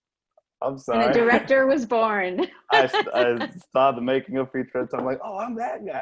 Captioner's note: laughs